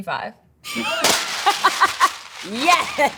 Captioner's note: laughs